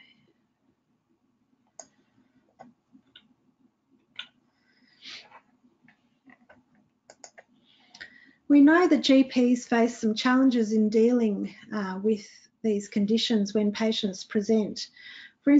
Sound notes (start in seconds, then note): 1.7 mouse clicking